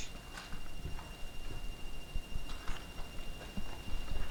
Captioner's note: beeping